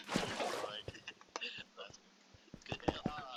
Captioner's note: laughs in non--english